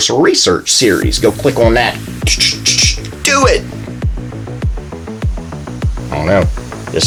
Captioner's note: makes click noises